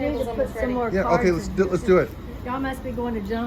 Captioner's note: overlapping chatter